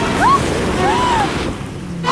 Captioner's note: Nina screams